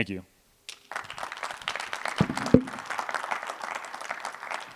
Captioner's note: applause